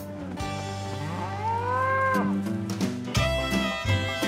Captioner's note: mooing